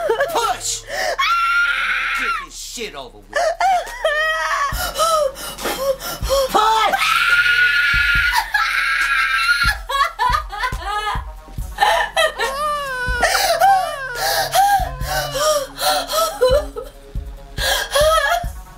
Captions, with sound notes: - Push! (Mary screams) - Then we can get this shit over with. (Mary breathes heavy) - Push! (Mary screams) (Mary cries) (baby cries) (Mary cries)